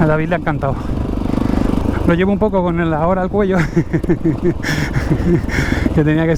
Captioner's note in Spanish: risas